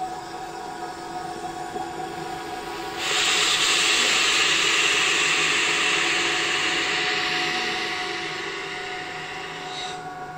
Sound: vacuum sound

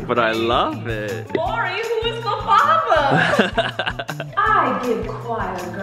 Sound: laughing

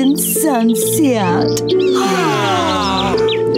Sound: birds chirping; all sighing; barking, growling; tense music playing

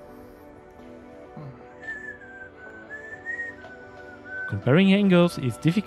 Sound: whistling

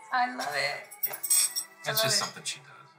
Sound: clangs from silverware

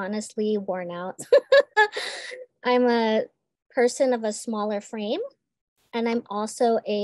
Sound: laughs

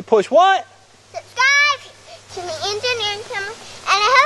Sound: voiceover

